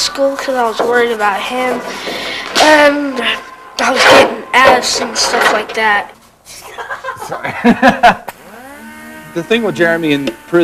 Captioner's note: laughter